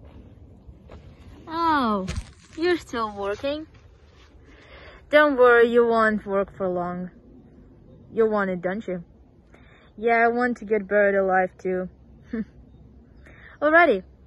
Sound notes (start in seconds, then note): 12.3 chuckle